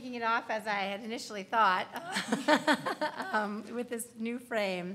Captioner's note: panel laughs